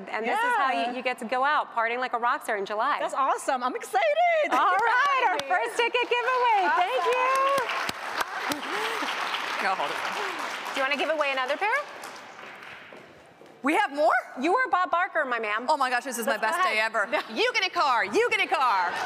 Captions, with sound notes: THANK YOU FOR COMING TO THE SHOW AND BEING A MEMBER OF THE LIVE AUDIENCE, AND THIS IS HOW YOU GET TO GO OUT, PARTYING LIKE A ROCK STAR IN JULY.>> THIS IS AWESOME! I'M EXCITED! >> ALL RIGHT! OUR FIRST TICKET GIVE-AWAY! THANK YOU! [Applause].>> DO YOU WANT TO GIVE AWAY ANOTHER PAIR? >> WE HAVE MORE? >> YOU ARE BOB BARKER, MY MAN.>>